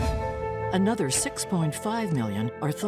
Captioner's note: air whooshing